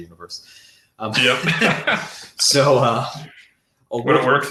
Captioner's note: laughs